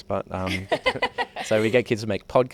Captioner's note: all laugh